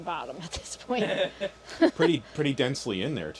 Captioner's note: laughing